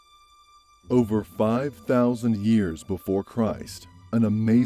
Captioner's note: voice-over